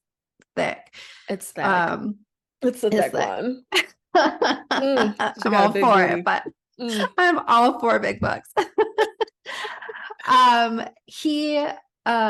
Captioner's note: laughing